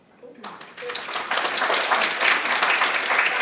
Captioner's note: audience applauds